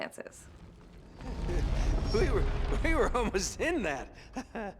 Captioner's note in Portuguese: risos